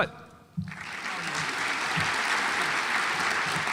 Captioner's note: audience applauds